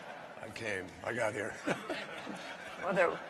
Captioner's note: laughter